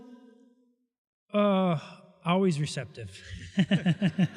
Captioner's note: laughter